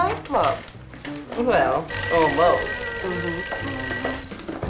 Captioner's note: telephone rings